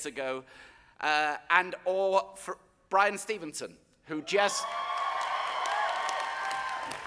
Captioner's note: audience cheering